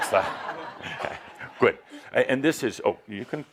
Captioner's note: laughter